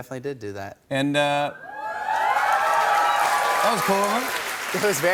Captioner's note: cheers and applause